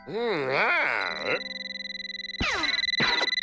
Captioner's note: telephone rings